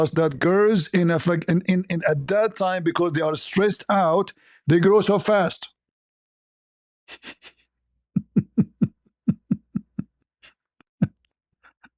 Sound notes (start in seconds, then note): 9.2 ketawa